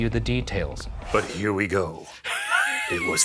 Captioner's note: laughs